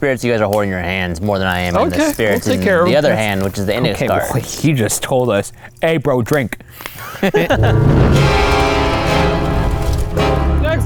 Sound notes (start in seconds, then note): 7.0 all laughing; 7.4 intense music effect